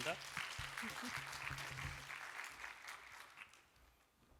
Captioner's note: applause